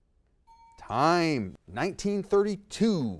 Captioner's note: ding